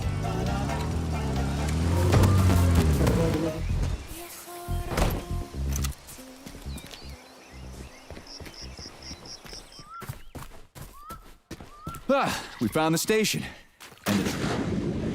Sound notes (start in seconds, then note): 5.8 birds chirping; 14.2 thunder